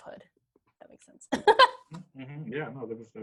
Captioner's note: laughs